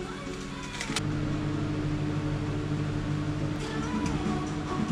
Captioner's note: noisy microwave oven